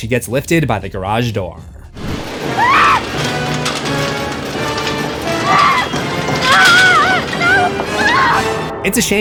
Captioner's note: screams